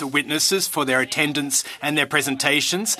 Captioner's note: speaking French